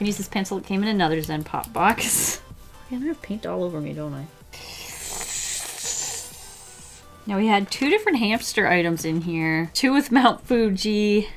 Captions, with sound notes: I can use this pencil that came in another Zen pop box I have paint all over me, don't I? [Frustrated inhale through teeth] Now we had two different hamster items in here. Two with Mount Fuji,